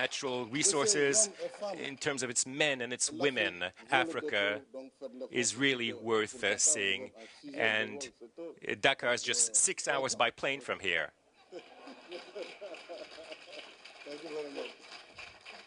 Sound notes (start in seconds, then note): 11.5 applause